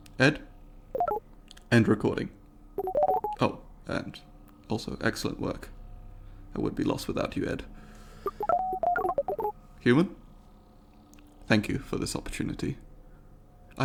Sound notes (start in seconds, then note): 2.8 Ed beeps conclusively; 2.8 Ed beeps inquisitively; 8.2 Ed beeps excitely